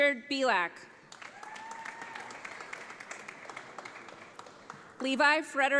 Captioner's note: audience applauds